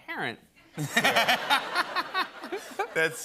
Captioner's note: laughter